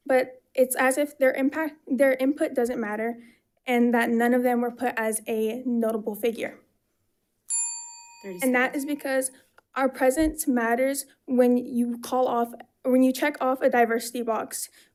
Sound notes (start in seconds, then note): none